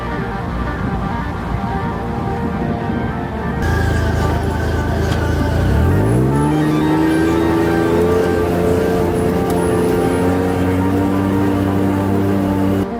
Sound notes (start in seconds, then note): 3.7 motor rumbling